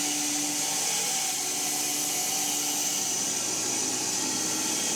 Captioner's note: mill whirring